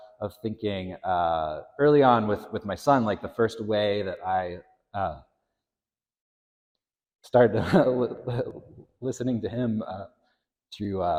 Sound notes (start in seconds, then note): 7.5 chuckles